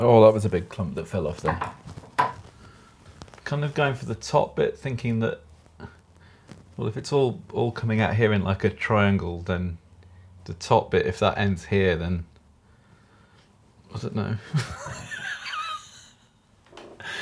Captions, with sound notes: Oh, that was a big clump that fell off then. Kind of going for the top bit, thinking that, well if it's all all coming out here in like a triangle, then the top bit, if that ends here, then, I don't know (laughing).